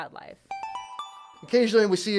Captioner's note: chime